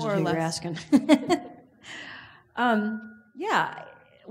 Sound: laughs

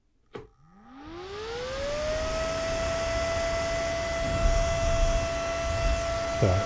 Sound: fan whirring

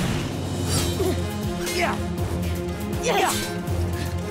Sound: grunting

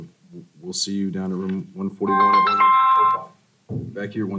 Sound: phone ringing

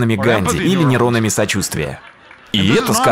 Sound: laughter

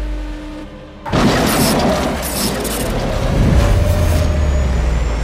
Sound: car crashing

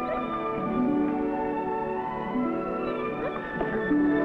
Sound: Rebel whining

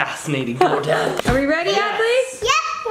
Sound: mom laughing

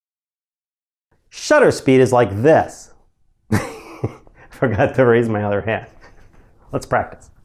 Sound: laugh

